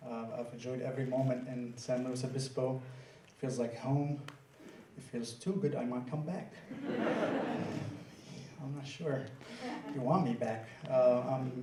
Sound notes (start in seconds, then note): 6.7 laughter